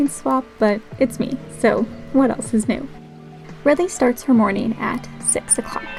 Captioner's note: laugh